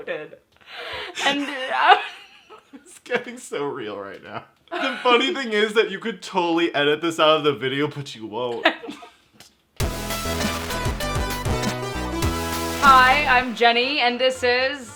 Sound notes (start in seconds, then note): 1.1 laughing; 9.8 theme music